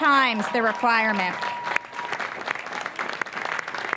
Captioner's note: applause